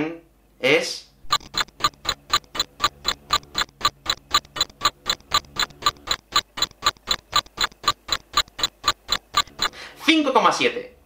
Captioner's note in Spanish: tic tac tic tac